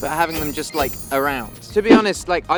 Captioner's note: bells tinkling